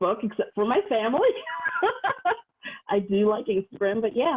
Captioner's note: laughs